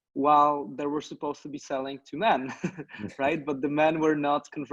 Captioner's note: laughs